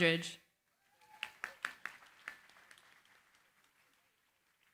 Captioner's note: applause